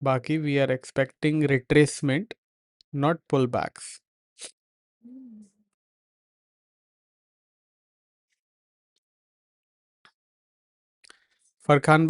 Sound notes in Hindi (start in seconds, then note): 5.1 नाक से की जाने वाली आवाज़